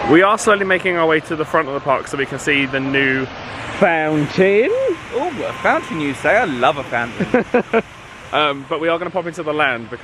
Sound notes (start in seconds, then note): 7.0 laughing